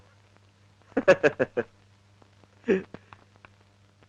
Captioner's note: laughing